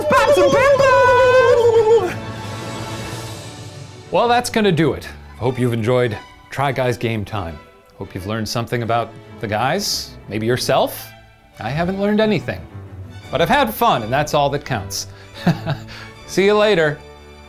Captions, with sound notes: - Let's pop some pimple! - Well, that's gonna do it. Hope you've enjoyed Try Guys Game Time. Hope you've learned something about the guys, maybe yourself. I haven't learned anything. But I've had fun and that's all that counts. (laughs) See you later!